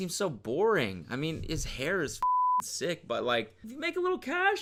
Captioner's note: beep